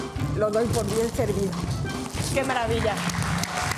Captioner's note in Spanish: Aplausos